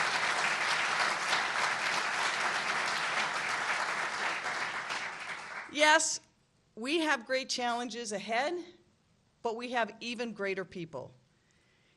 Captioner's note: applause